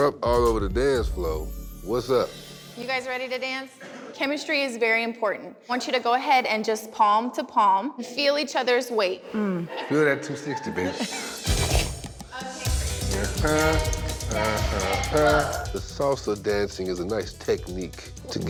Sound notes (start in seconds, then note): 12.3 laughs